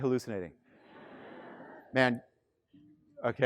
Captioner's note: students laughing